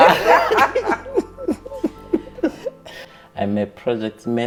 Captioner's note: chuckling